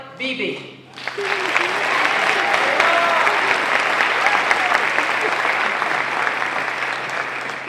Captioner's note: applause